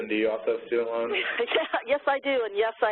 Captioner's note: laughs